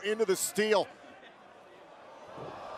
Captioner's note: crowd cheering